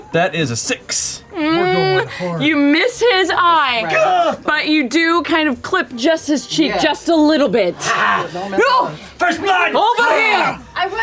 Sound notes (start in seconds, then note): 4.3 exertion